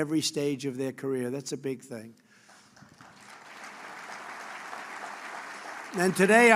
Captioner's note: applause